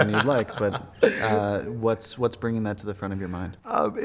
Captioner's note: laughing